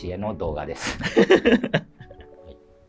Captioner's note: laughing